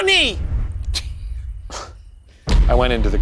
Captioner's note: laughing